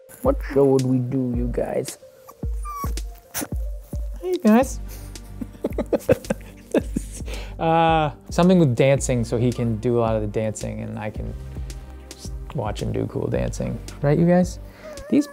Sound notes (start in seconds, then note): 2.2 puppy whimpering; 4.8 laughs